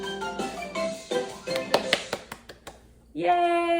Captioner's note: applause